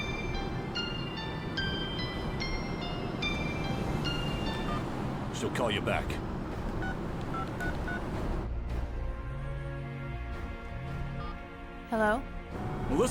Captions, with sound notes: (phone ringing) - She'll call you back. (phone beeping) (phone vibrating) - Hello?